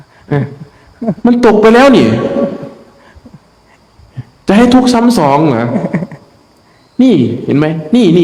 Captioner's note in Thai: เสียงหัวเราะ